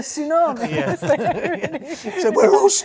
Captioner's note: laughing